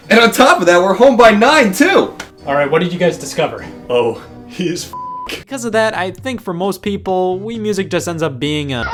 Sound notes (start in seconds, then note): 4.9 beep